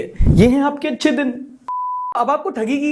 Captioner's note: beep